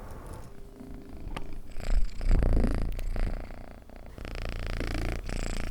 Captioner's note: gato ronroneando